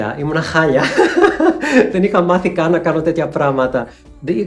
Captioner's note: laughter